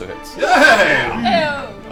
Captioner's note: all cheer